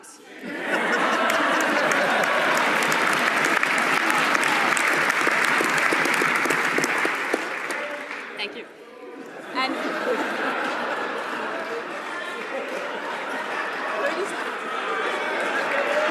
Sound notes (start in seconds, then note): 3.4 laughter; 5.1 applause